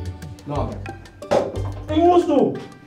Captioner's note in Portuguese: shoe falls on the ground